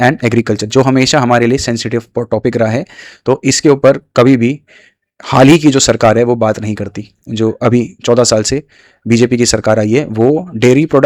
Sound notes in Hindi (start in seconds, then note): none